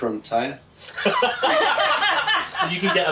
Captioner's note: laughing